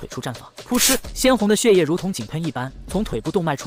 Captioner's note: splat!